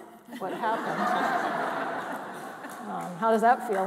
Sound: all laughing

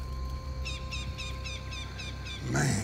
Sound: sea bird calls

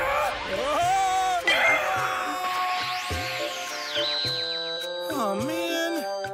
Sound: screaming

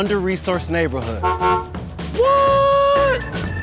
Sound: honking

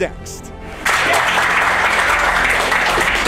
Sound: applause

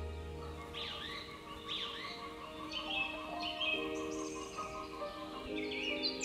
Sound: chickens squawk in distance

